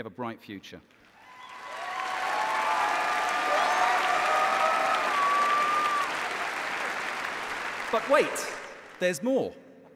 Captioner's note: cheers and applause